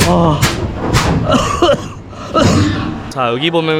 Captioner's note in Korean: 마무리 기침